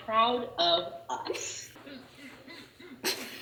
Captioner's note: laughs